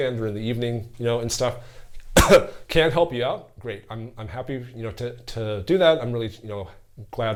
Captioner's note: cough